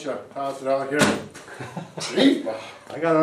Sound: group laughs

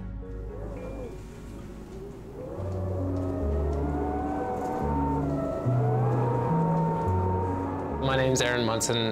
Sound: wind howling

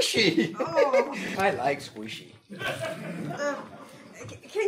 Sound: audience laughing

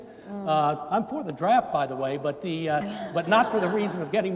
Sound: laughing

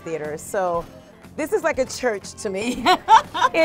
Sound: laughs

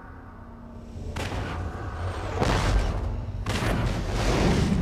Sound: digitized landslide sounds

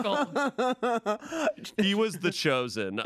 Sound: laughs

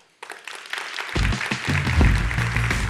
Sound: crowd claps; funky music

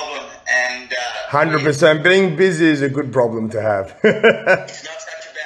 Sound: laughing

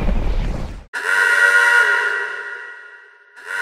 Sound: siren Alarm

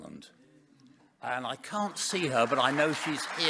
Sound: audience applauding

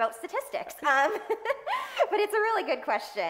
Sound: laughing

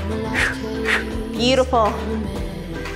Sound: exhales audibly

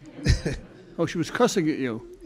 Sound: laughs

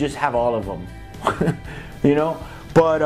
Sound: laughing

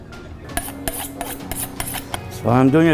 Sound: sound of knife sharpening

